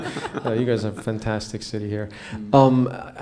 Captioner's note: laughter